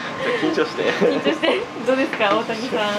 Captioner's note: laughs